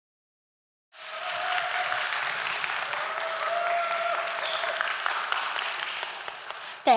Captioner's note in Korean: 박수와 환호